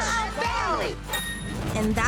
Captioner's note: bell dinging